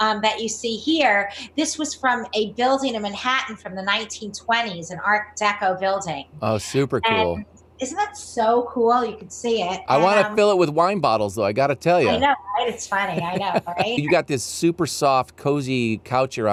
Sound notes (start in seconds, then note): 12.7 laughs